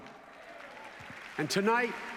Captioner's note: applause